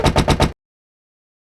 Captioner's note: punctuated banging